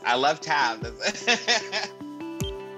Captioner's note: laughs